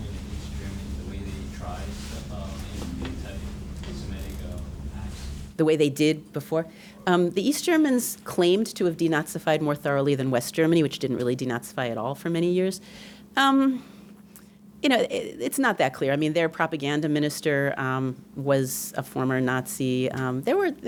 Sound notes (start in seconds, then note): 0.0 rustling